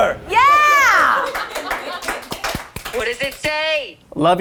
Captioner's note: crew applauding